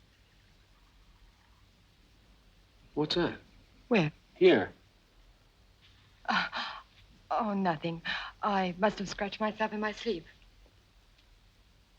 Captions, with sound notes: What's that? - Where? - Here. - (gasps) Oh, nothing. I must have scratched myself in my sleep.